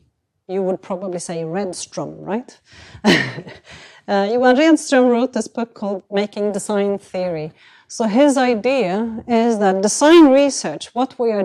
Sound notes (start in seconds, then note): 3.1 chuckles